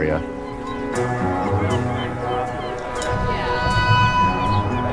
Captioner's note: birds squawking; gentle music